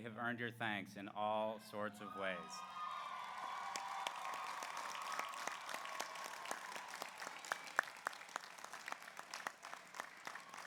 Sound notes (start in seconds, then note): 2.0 graduates cheering; 2.2 graduates applauding